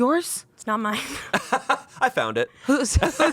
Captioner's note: laughs